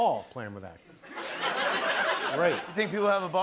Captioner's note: laughter